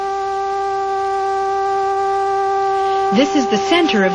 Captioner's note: buzzing continues